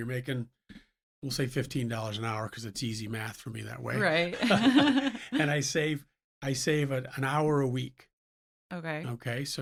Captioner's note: laughs